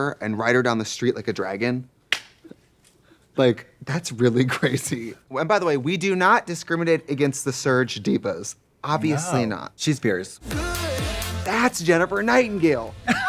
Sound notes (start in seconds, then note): 2.2 Katya claps